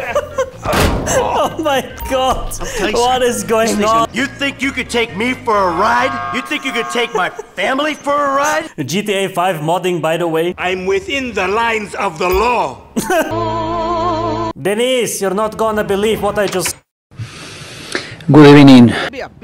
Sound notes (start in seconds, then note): 0.0 is just freaking dying lol; 17.2 inhale; 17.2 exhale